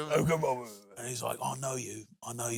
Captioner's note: gruffly; laughs; gruffly